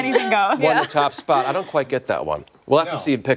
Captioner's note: laughter